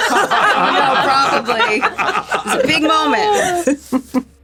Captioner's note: laughter